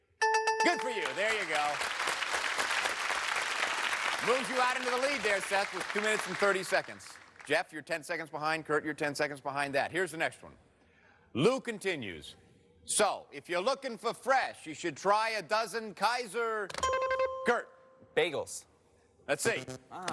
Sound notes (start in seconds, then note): 0.2 bell rings; 2.7 cheers and applause; 17.0 buzzer rings